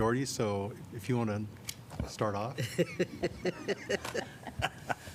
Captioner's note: laughter